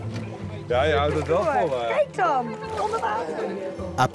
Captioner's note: foreign language spoken audio